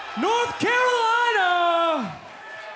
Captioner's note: crowd cheering